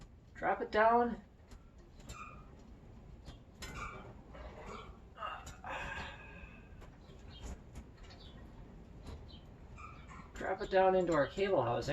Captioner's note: sigh